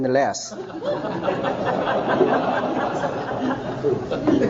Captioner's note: audience laughing